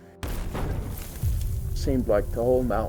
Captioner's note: explosion roaring